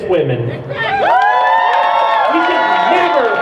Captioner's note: crowd cheers